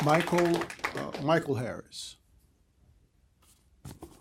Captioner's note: applause